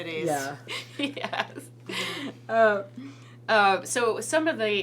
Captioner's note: laughs